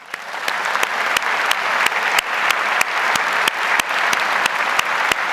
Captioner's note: audience applauds